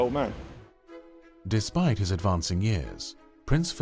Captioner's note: voiceover